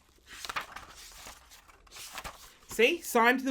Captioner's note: pages flipping